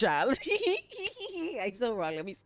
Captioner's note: laughing